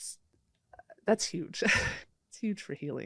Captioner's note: laughs